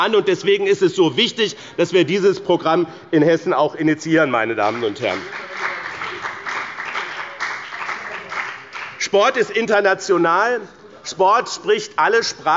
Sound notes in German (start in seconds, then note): 4.6 Beifall bei dem BÜNDNIS 90/ DIE GRÜNEN und der CDU